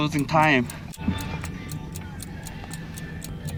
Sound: tick tock tick tock

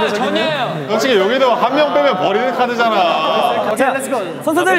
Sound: booing each other

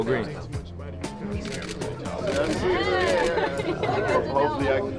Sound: camera shuttering

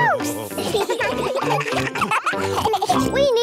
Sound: children giggling

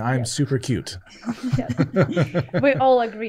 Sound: all laughing

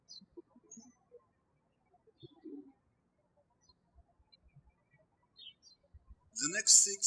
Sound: birds chirping

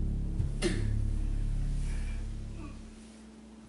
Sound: droning fades out

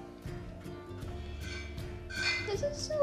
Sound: objects clinking

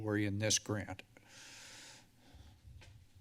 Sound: inhales heavily

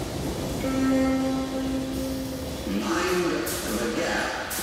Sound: A horn sounds and a distant voice announces: 'Mind. The. Gap'

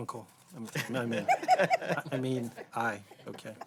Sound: laughter

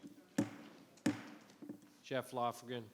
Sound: gavel thudding

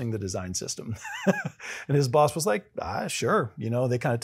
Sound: laugh

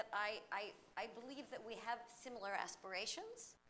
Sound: none

